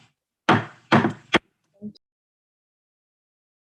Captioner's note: gavel bangs